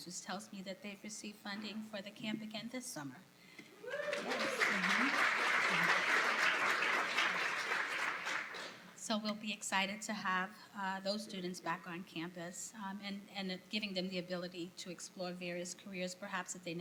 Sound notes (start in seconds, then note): 3.8 applause